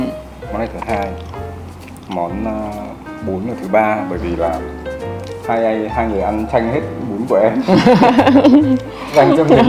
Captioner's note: laugh